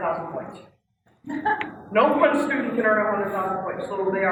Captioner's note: laugh